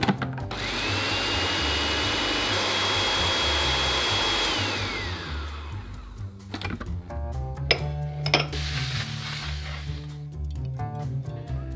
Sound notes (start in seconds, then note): 0.4 food processor blending